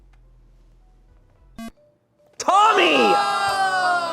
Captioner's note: electronic beep; audience exclaiming